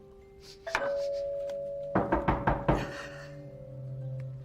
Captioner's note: door bell; knocking loudly